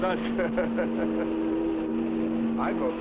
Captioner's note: chuckling